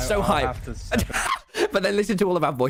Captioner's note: laughs